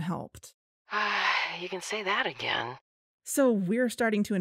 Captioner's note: sigh